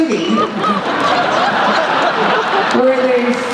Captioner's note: laughter